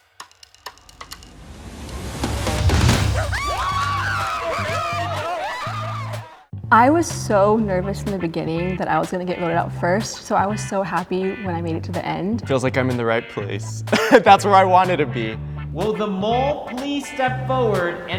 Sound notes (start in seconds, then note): 0.1 suspenseful music; 3.0 group screaming